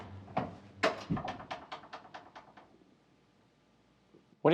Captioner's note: door closing